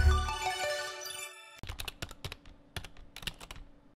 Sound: typing

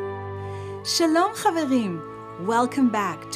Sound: speaking in Hebrew

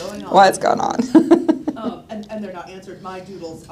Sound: laughs

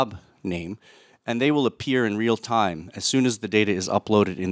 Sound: none

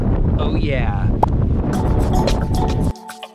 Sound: popping; popping; bright happy music

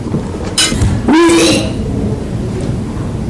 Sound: retching

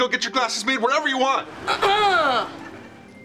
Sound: Henry clears his throat

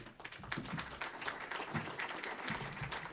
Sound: applause

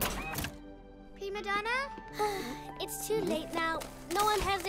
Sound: sighs

